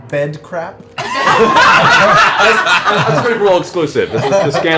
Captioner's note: laughter